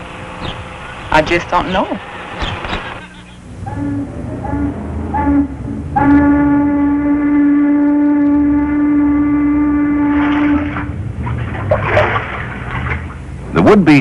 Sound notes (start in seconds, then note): 2.8 A riverboat horn sounds